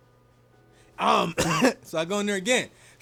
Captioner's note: coughs